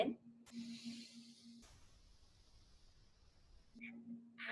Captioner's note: inhales heavily